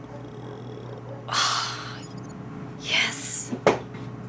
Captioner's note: sighs